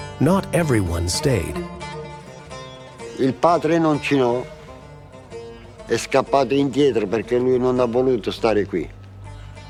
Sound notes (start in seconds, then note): 3.4 speaks in foreign language